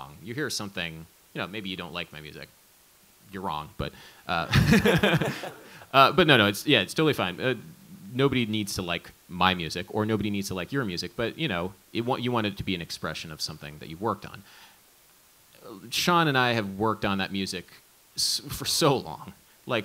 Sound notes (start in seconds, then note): 4.4 all laughing